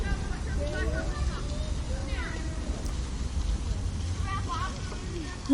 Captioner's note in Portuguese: sons de pessoas no parque